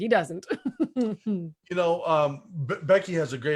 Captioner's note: laughs